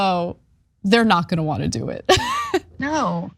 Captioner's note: laugh